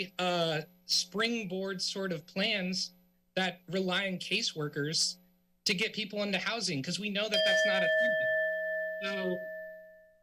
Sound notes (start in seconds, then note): 7.3 timer dings